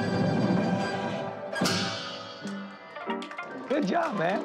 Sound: applause

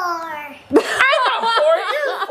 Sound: laughing

